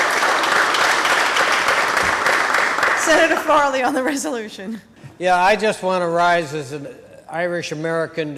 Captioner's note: applause